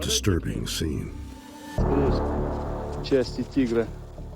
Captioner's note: speaking russian